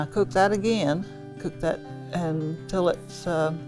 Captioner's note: none